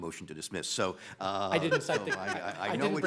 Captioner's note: laughs